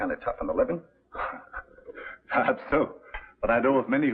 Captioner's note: giggles